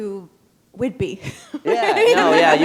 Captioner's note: chuckle